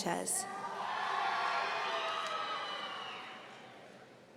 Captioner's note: audience cheering